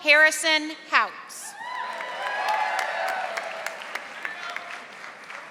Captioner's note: audience applauding